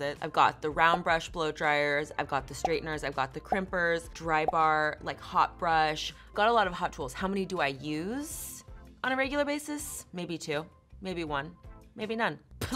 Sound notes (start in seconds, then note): none